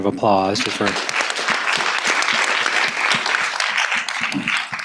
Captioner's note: applause